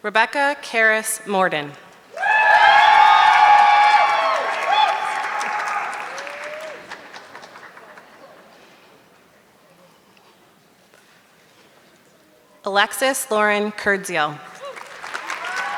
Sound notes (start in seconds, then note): 2.1 audience clapping; 14.5 audience clapping